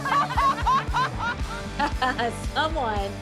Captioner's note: laughter; laughs